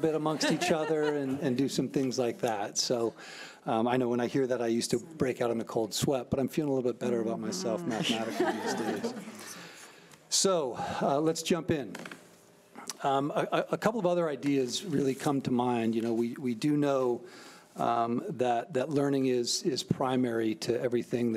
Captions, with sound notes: amongst each other and do some things like that. So, I know when I hear that I used to break out in the cold sweat, but I'm feeling a little bit better about myself mathematically. (laughing) So, let's jump in. A couple of other ideas really come to mind. We do know that learning is primary to everything